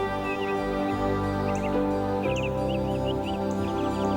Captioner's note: chirping of birds